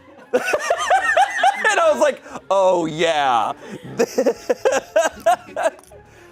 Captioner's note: audience laughing; laughs